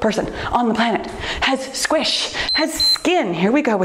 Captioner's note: timer beeps